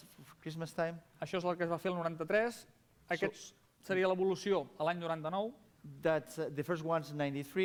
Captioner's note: non-english speech